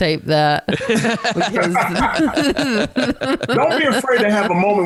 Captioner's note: laughter